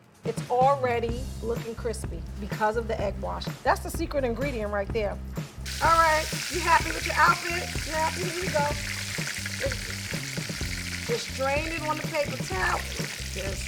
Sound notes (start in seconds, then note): 9.5 oil sizzling